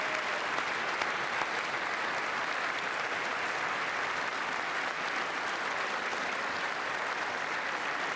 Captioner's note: applause